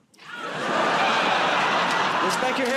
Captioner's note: laughter